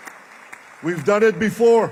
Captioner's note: applause